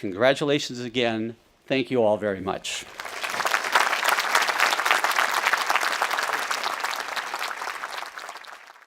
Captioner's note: audience applauding